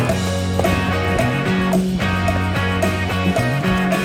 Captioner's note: splash splash